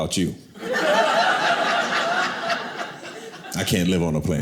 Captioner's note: audience laughing